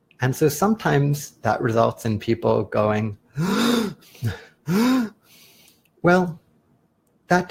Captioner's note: sound of anxious attempt at a deep breath